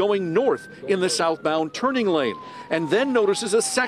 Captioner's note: siren